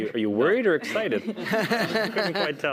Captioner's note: laughter